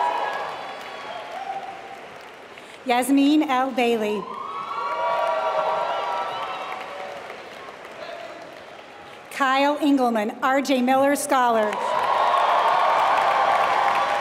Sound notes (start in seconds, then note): 0.0 applause; 5.9 applause